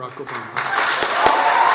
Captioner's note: applause